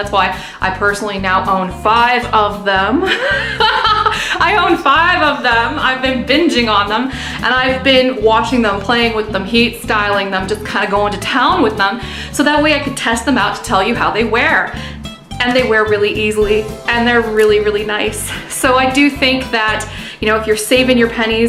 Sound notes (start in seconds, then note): 3.1 laughing